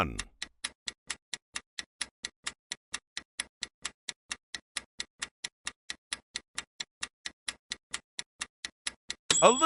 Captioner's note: sound of stopwatch ticking